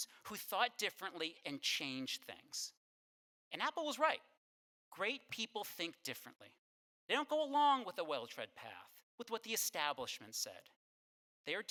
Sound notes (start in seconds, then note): none